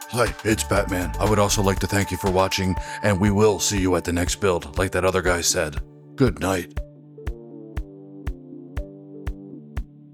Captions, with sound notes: (Deep Batman voice) "Hi, it's Batman. I would also like to thank you for watching, and we will see you at the next build, like that other guy said." (Deep Batman voice) "Good night."